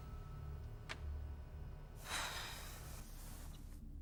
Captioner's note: Alice sighs